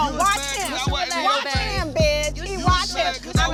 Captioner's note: people speaking indistinct